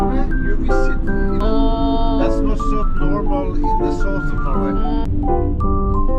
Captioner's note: laughing